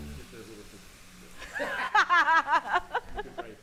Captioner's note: laughs